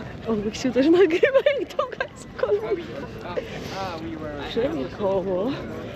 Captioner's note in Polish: śmiech